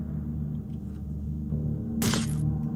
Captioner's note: none